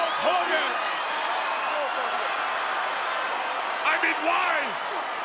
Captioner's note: crowd cheering